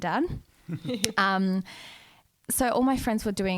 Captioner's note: laughing together